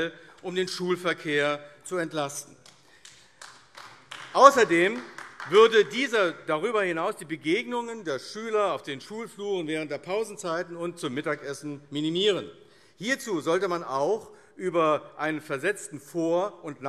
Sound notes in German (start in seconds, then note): 2.5 Beifall AfD